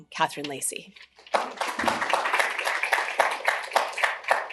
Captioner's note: applause